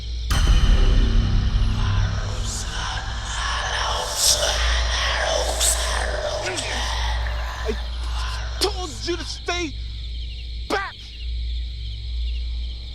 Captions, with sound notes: (Ominous Music Continues) (Demonic Chanting Continues) (Henry Grunting) I told you to stay back.